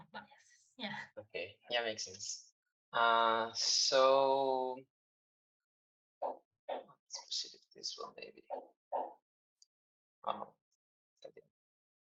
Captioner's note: pause